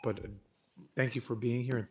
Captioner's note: timer tone